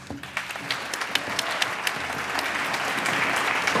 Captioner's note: applause